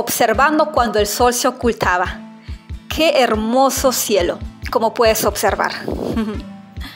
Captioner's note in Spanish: Inhalo,exhalo y sonrio